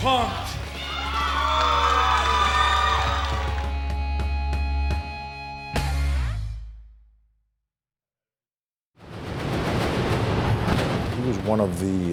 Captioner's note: applause